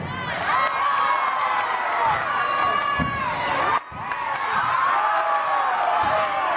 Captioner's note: crowd cheering; crowd applauding